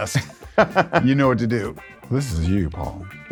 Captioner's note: laughs